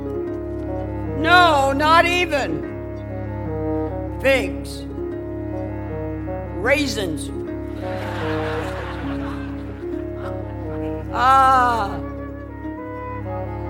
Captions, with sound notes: No! Not even figs. Raisins. [ Laughter ] Ah.